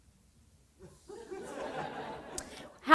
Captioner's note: laughter